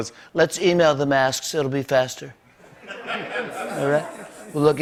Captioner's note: laughter